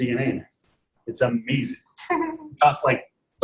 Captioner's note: chuckles